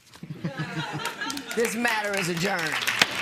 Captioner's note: laughter